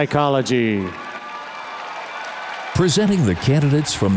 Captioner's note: audience cheers and applauds